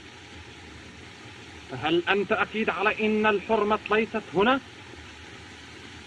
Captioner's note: speaking Native Language